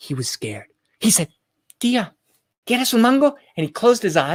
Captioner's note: spoken in foreign language